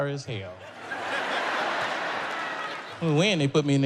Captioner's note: audience laughs